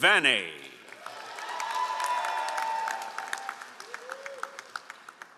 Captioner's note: all applauding